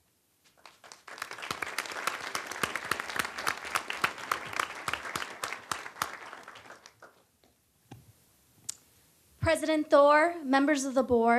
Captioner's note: applause